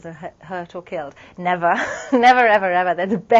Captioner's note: laugh